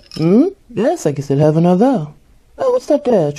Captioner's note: sound of glasses clinking/ice cubes is heard nearby